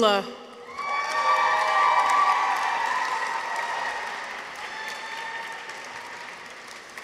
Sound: people cheer; audience applauds

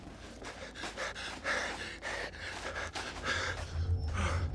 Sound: person breathing

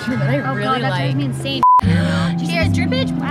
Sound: beep

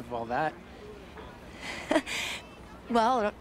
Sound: laughs Nervously

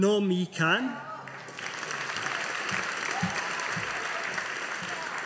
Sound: audience applauding

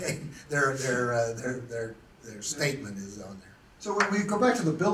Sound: chuckles

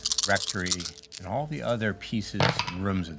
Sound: dice rolling

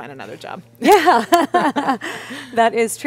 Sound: laughs

